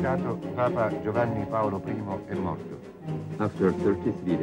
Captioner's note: foreign spoken audio